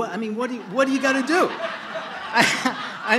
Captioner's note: laughter